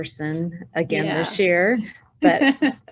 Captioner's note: chuckles